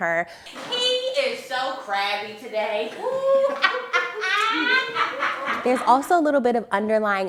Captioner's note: laughter